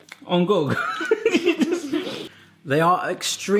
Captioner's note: laughing